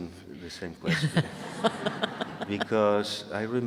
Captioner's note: audience laughing